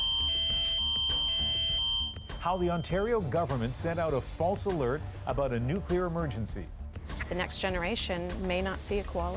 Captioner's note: alarm sounding